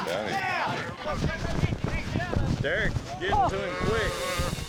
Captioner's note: cheering, shouting